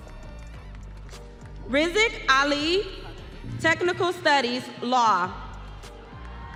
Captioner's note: audience applauding